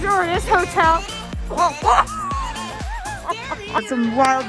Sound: laughs

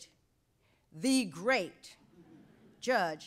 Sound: audience laughs

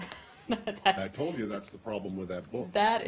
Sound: laughter

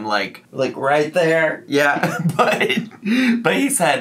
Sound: laughs

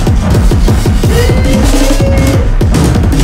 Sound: he whoops

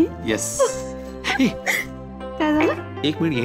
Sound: laughing

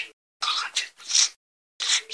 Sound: sniff

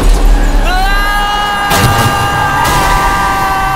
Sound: screams

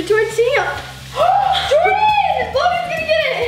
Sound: gasps

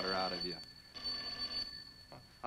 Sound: phone ringing

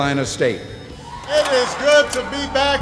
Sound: slide clicks

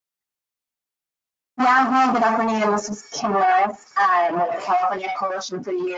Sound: distorted audio

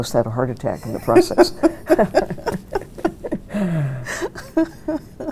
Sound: both laughing

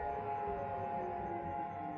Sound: none

